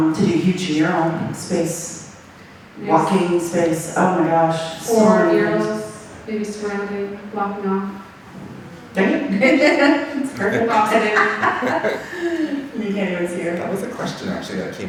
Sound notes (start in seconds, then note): 7.7 speaking faintly; 12.4 laughing; 13.3 speaking faintly